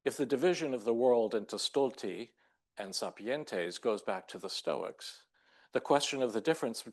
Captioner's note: speaking Latin